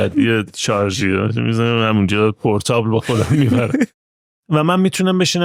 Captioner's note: laughs